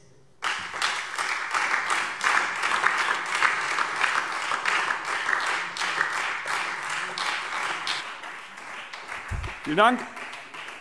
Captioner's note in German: Beifall Freie Demokraten und vereinzelt SPD